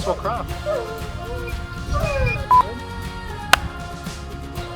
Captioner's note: dog whimpering